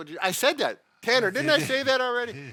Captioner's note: laughs